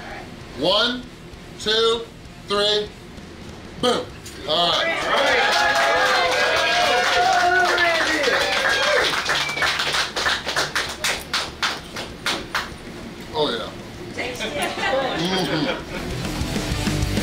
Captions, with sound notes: 1, 2, 3. . . Boom!! (crowd cheering) Oh yeah!